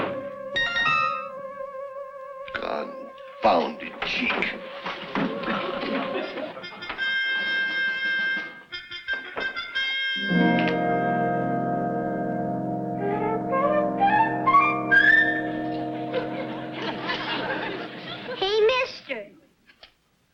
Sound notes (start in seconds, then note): 0.0 playful music; 0.6 whimsical chimes; 6.8 regimental music; 10.2 suspenseful music; 16.7 audience laughs